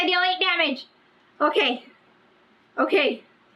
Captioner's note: none